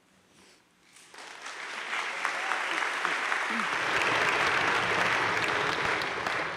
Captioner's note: audience cheering and applauding